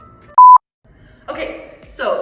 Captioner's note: beep